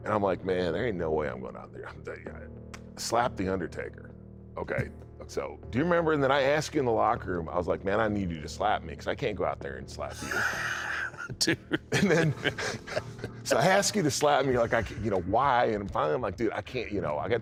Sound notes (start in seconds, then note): 10.1 laughs